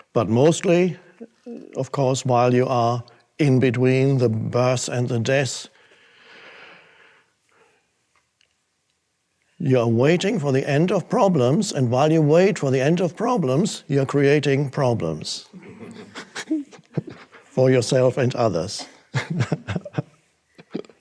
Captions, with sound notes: But mostly, of course, while you are in between the births and the deaths, you are waiting for the end of problems and while you wait for the end of problems, you're creating problems (audience laughs) (Eckhart laughs) for yourself and others. (laughs)